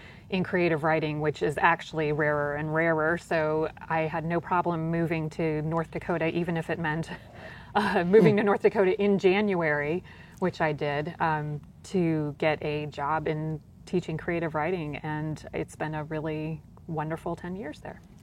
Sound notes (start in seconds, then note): 8.0 chuckles